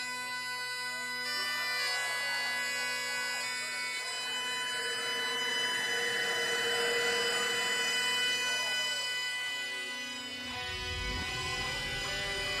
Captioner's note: crowd cheering